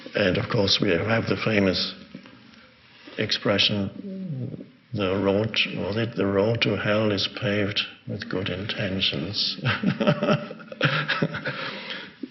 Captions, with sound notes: And of course we have the famous expression, the road, what was it? The road to hell is paved with good intentions. (laughs)